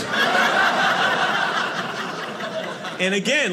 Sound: audience laughing

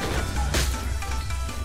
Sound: crack

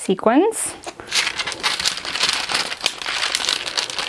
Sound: paper rustling

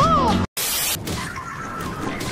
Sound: haha; static

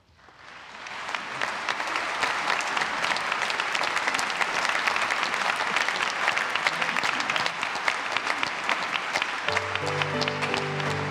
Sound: applause

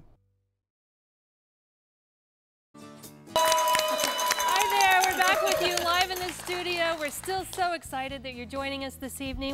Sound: �cheering and applause�

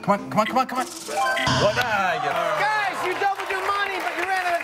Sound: bell dings; buzzer

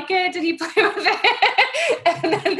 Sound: laughs

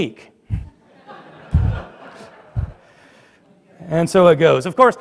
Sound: laughter

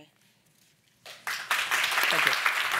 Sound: audience applauding

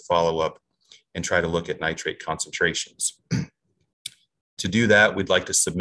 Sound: clears throat

